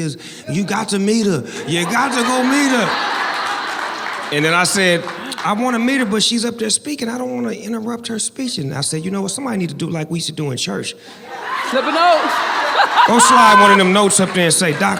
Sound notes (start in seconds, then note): 1.6 audience laughing and clapping; 11.2 laughs